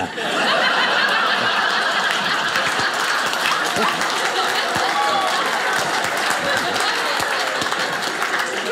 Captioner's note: audience applauding